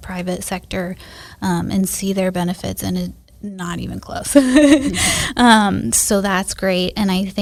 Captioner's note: laughs